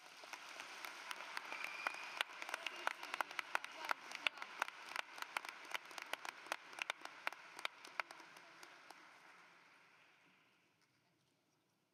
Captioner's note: cheering and Applause